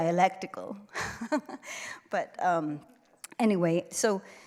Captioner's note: laughs